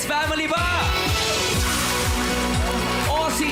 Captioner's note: audience applauding